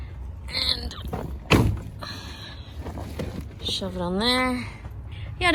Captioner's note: pantry box thuds onto shelf